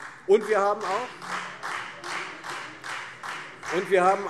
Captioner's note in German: Beifall Freie Demokraten